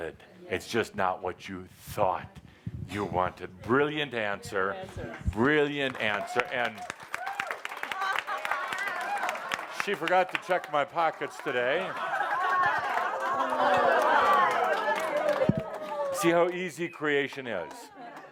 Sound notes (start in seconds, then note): 6.8 audience applause; 11.9 laughter and cheering as Adamus gives some money to Joshua